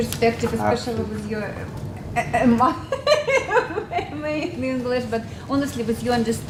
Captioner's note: laugh